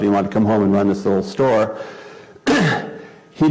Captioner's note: cough